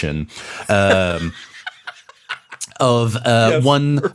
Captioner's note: cackles